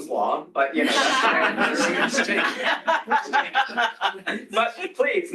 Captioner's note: laughter